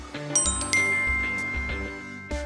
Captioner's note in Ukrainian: магічний звук